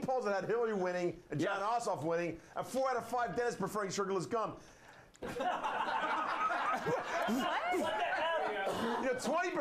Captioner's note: laughter